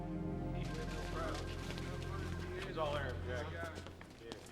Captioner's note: officers chattering